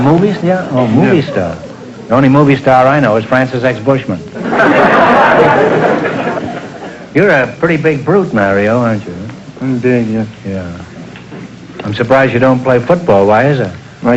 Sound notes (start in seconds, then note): 4.3 audience laughter